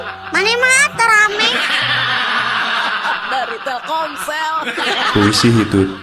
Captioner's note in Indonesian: tertawa